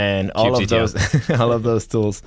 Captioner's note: laughter